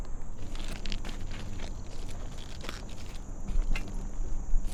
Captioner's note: footsteps crunching